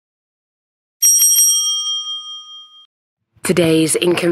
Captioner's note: bell rings